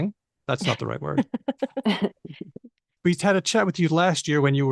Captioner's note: laughs